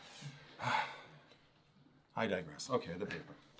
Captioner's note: sighs